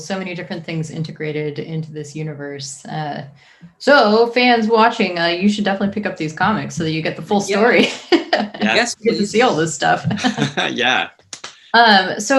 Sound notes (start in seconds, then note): 7.2 laughs; 10.1 chuckles